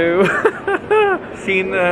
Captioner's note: laughing